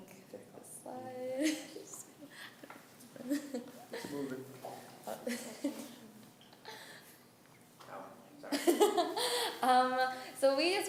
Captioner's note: laughing